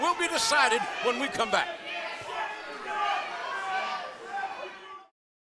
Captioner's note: crowd chatter